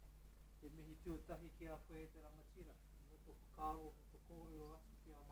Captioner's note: speaking Maori